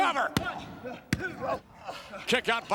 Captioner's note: hand pounding